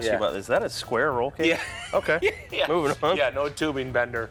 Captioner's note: laughs